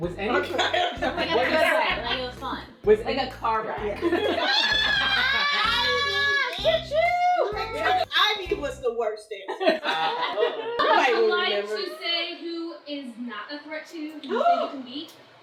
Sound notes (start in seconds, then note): 0.4 laughter; 4.7 cackling